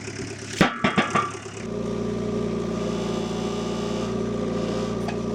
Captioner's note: tractor humming; metal clanking